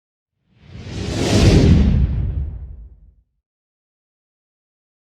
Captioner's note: dramatic whooshing